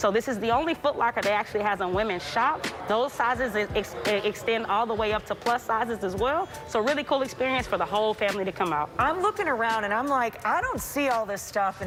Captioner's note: talking fast